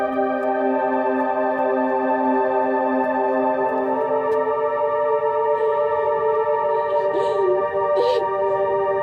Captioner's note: sobbing